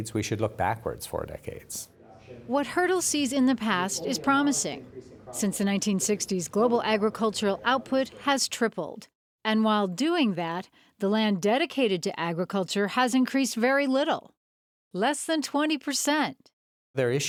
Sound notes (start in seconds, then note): 2.8 voiceover